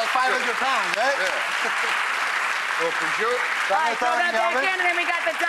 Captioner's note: clapping